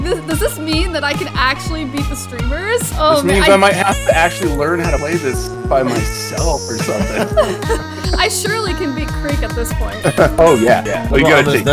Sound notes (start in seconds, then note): 5.8 laughs